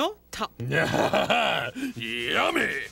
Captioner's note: chuckles hungrily